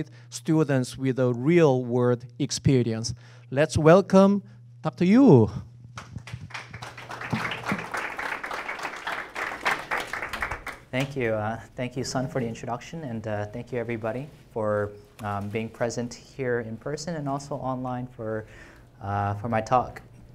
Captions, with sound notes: to provide students with a real world experience. Let's welcome Dr. Yu. (audience clapping) - Thank you. Thank you, Son, for the introduction and thank you everybody for being present here in person and also online for my talk.